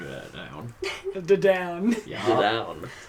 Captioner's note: laughs